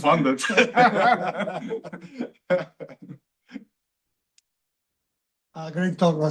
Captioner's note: laughter